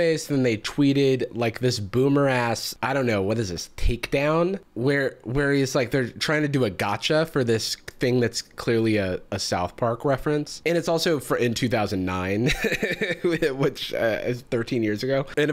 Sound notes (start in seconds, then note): 12.4 laughs